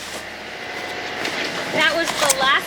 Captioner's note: sewing machine raving